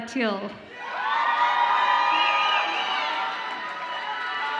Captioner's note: audience applauds and cheers